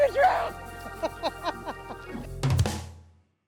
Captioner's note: laughs